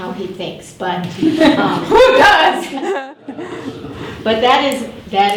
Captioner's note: laugh